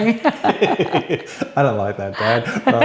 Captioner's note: laughs